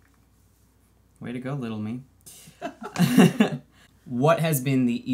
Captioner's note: laughs